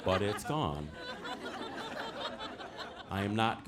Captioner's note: audience laughing